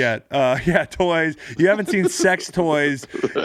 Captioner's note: laughing